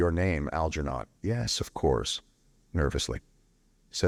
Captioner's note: nervously